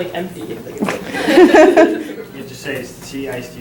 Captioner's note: laughter